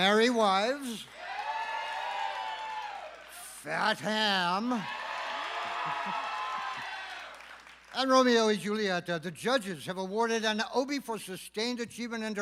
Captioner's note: applause